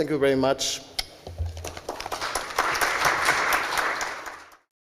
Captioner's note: applause